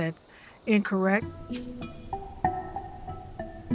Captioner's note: lighter clicks